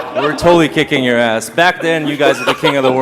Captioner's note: Edmund McMillen laughing